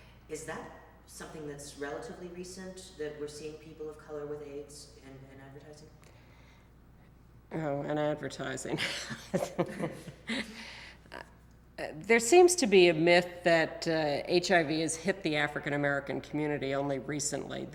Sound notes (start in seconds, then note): 8.8 laughs